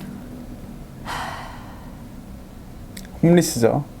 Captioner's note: sigh